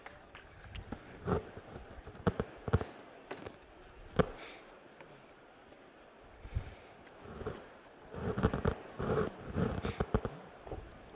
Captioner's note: applause